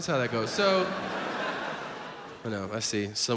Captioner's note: audience laughs